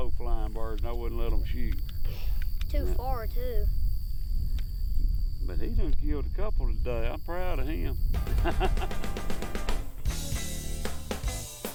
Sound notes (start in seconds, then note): 8.2 upbeat jazz music; 8.2 laughing